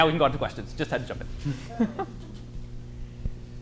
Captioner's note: laughs